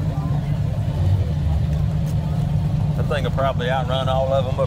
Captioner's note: revving continues